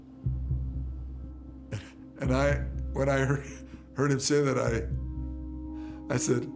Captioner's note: chuckles